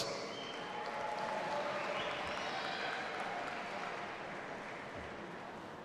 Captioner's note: audience applauding and cheering